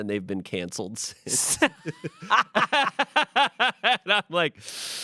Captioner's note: everyone laughs